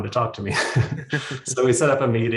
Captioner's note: both laughing